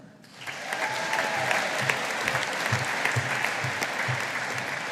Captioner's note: audience applauding